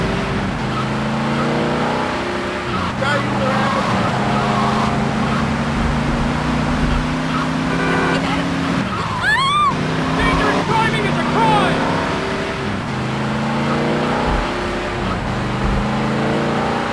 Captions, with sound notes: (sirens) (sirens) (screaming) Danger is driving in the car!